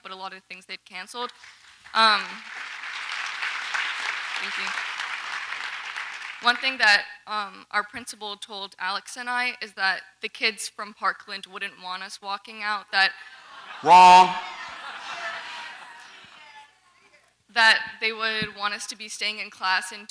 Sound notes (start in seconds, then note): 1.4 audience applauds